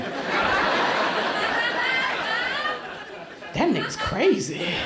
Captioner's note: crowd laughs